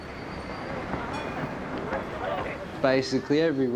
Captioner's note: tram bell dings